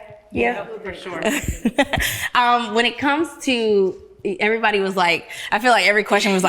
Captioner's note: laughs